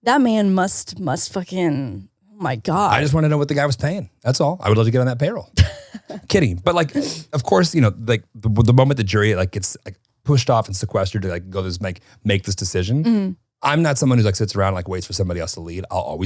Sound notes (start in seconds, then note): 5.6 chuckles